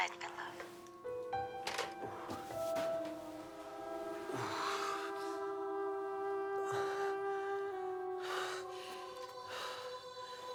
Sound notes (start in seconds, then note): 4.2 Rene groans and pants; 4.8 soft tense music